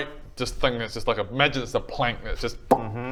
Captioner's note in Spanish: pop